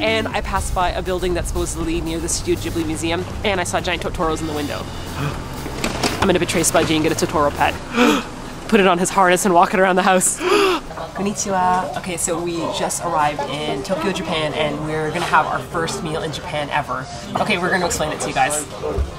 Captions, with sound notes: And I passed by a building that's supposedly near the Studio Ghibli Museum. And I saw giant Totoros in the window! *Gasp* I'm gonna betray Spudgy and get a Totoro pet. *GASP* Put it on his harness and walk it around the house! *GASP* Konnichiwa! Okay, so we just arrived in Tokyo, Japan, and we're going to have our first meal in Japan, ever. Okay, we're going to explain it to you guys.